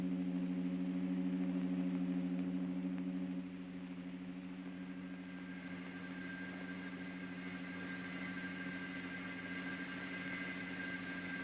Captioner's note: humming sounds